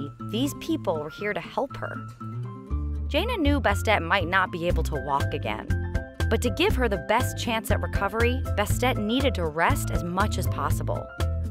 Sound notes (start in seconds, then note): none